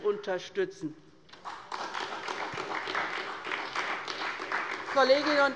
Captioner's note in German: Beifall bei der SPD